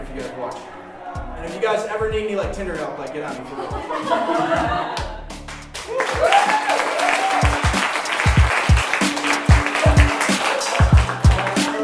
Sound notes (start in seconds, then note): 3.4 laughing; 5.7 applauding; 7.7 percussive music